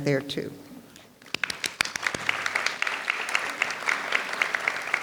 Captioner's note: audience applauds